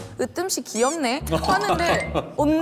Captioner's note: laughing